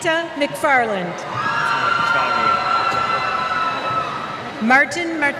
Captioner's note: cheers